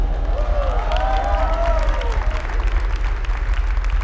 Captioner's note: cheering/applause